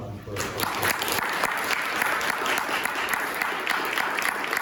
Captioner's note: applause